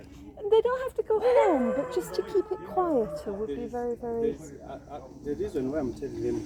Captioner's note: dog barking